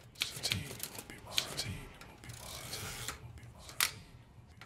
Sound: distant echoed voice

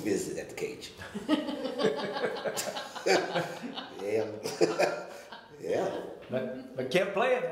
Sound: all laughing

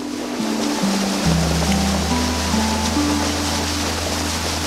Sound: water splashing

